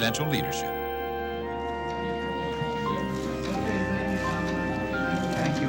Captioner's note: people talking in background, camera shutters clicking